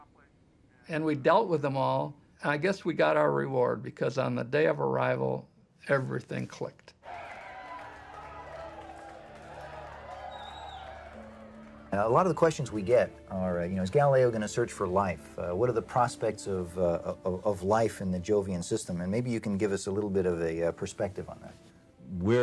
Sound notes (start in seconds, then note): 10.2 crowd cheering